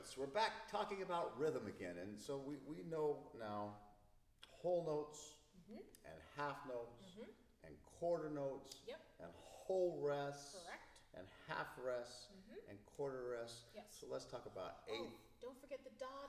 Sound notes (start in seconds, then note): 5.6 mmhmm